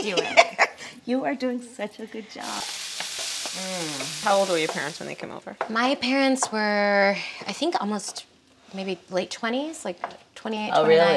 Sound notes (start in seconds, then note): 0.2 laughing; 2.4 onions sizzling